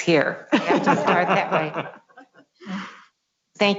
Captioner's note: laughs